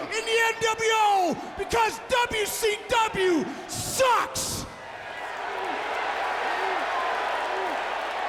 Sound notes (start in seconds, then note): 4.8 crowd cheering